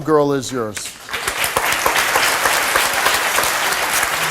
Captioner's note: audience applauds